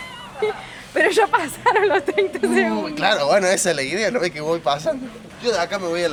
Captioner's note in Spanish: risas